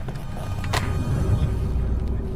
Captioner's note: car noises